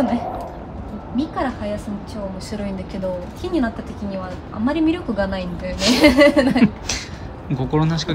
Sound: laughs

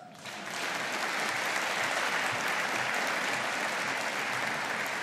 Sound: audience applauding

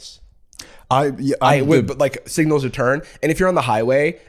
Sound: stammering agreement

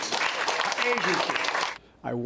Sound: applause

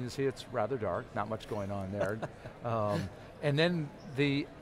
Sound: chuckles

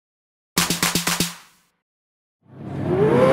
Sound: clapping

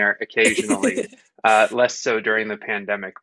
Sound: giggling

